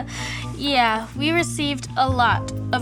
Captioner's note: laughs